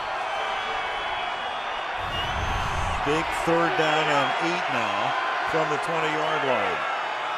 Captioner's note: cheering